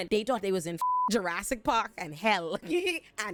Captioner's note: beep